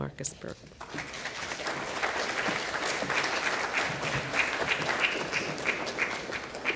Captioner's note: applause